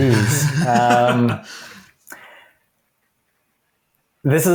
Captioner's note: laughs